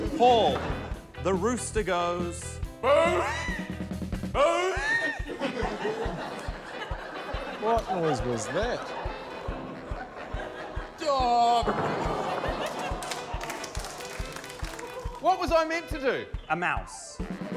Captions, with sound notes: - Paul, the rooster goes... - (BRAYS) - What noise was that? - Oh! What was I meant to do? - A mouse.